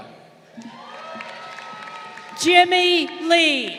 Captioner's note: crowd cheering